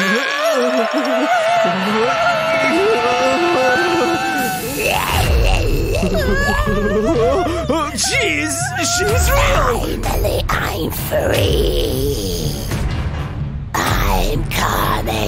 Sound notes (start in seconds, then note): 10.2 grumbles; 12.4 groans